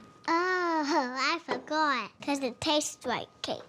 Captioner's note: laughs